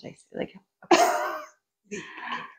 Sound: laughing

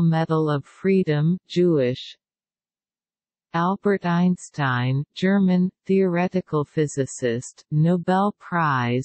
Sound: German

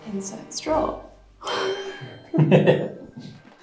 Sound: actors laugh

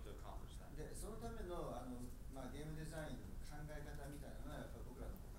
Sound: speaking in foreign language

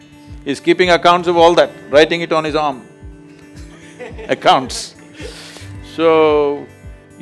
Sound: laughs

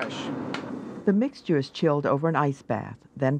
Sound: voiceover

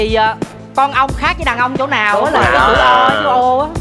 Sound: bees

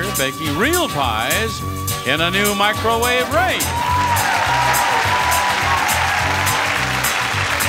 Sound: audience applauding

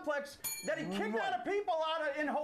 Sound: bell rings

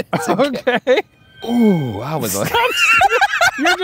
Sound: laughing; laughs

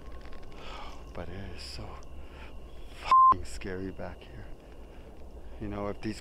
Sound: beep

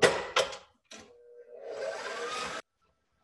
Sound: mixer whirring

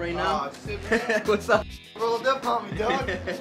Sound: laughing

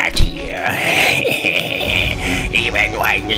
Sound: evil Chuckle

